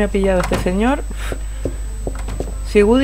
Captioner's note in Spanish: soplido